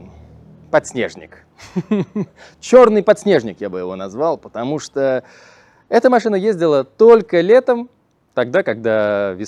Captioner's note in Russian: смех